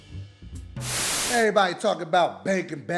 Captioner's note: static